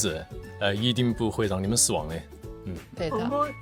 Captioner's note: in Chongqing dialect